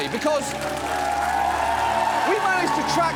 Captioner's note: audience cheers, applauds